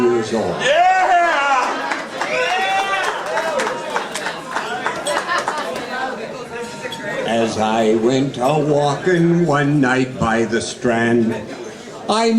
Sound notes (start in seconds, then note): 0.6 guests cheering